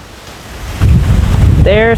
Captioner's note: wind